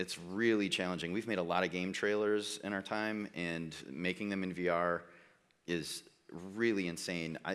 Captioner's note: none